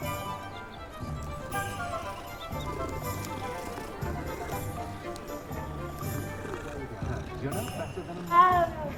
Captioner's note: purrs